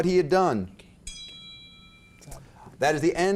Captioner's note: contestants whispering; bell dings